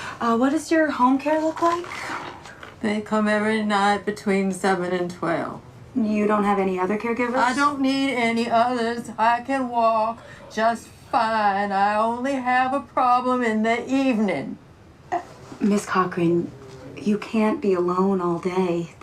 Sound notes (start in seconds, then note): none